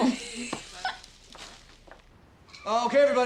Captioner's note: laughs